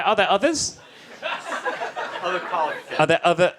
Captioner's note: audience laughs